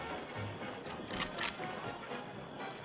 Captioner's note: rifle cocks